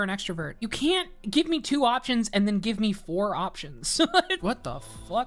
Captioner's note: laughs